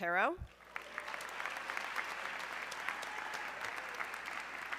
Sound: audience clapping

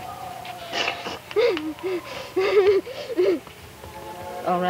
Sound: Lydia sobbing

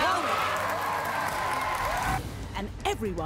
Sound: crowd cheering

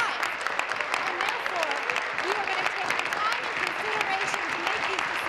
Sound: applause

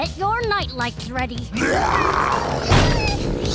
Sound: growling

